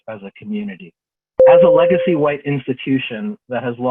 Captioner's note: bell rings